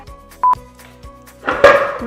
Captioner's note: beep